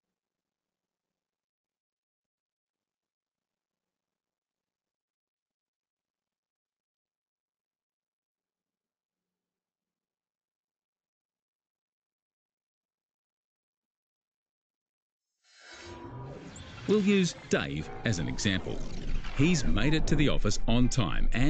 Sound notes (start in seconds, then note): 15.8 whirring machinery